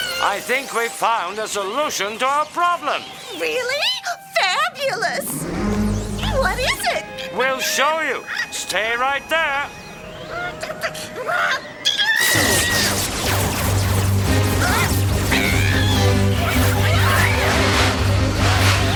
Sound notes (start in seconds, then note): 11.8 The Witch screams; 15.7 suspenseful music